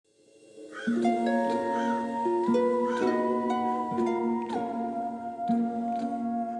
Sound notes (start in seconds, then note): 0.2 mysterious music; 0.7 crow cawing